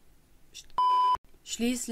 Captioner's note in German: Piep-Ton